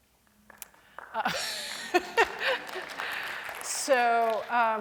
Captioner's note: applause